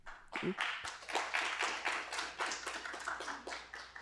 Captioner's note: applause